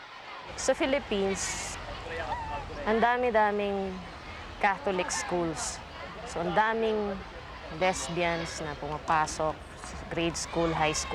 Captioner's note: in Filipino